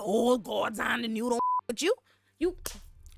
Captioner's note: beep